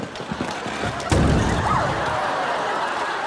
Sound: thudding

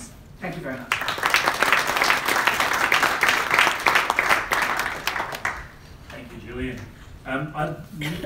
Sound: applause

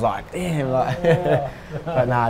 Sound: chuckles

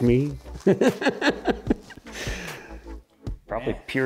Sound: laughing

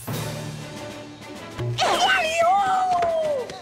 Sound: squealing

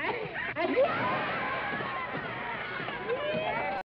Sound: everybody laughing

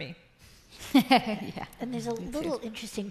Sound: laughs

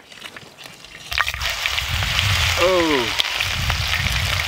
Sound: meat sizzling

